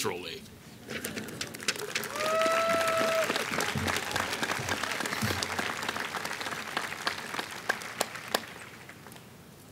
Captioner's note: applause